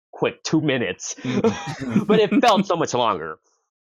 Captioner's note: laughter